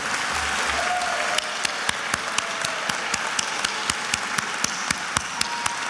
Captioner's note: attendees applauding and cheering